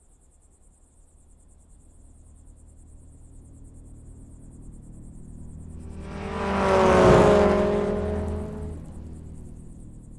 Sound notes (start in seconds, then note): 5.3 car engine rumbling